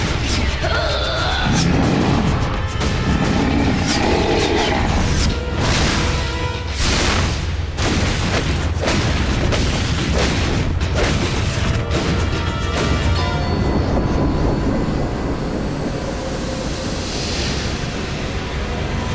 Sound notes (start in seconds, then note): 0.6 grunting; 3.1 growling